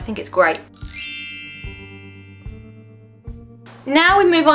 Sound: bell transition sound effect

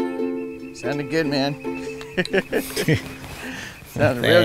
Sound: laughs

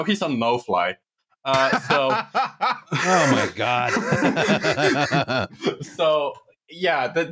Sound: laughs heartily; laughs

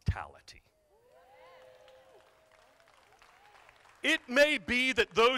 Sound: crowd applauding

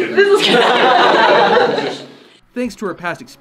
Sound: group laughs

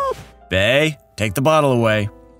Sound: distressed meow

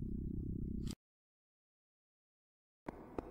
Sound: rumbling stops

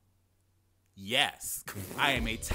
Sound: man laughs

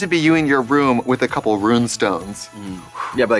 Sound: whooshes

